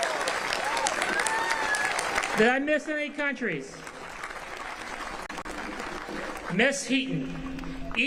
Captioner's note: applause